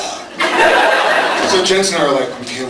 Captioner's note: laughs